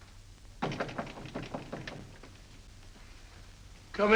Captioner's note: knock on door